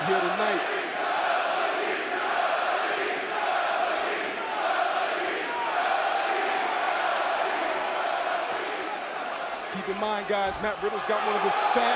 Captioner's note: crowd cheering